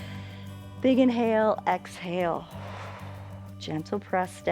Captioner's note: inhales; exhales